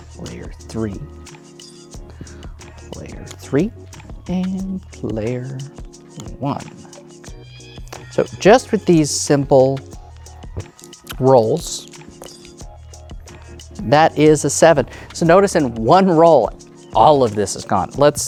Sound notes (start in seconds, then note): 11.6 dice rattling; 12.3 dice rolling